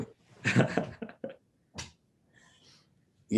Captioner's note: laughter